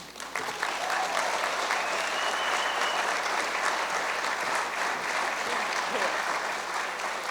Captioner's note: cheers and applause